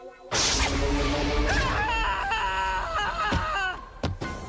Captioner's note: screaming